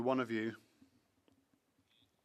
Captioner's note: speaking French